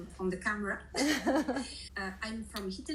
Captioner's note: laughing